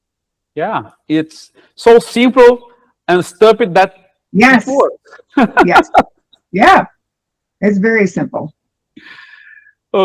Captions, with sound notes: Yeah, it's so simple and stupid that it works! [laughter] Yes. Yeah, it's very simple.